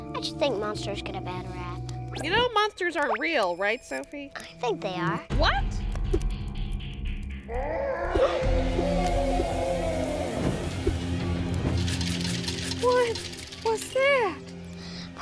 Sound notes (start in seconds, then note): 7.5 howling sound; 11.4 can rattling